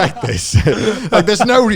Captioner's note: laughing